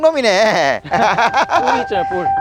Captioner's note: both laughing